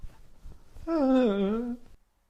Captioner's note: whimper